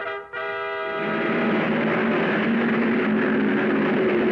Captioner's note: cars revving